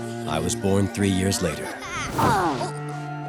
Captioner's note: grunting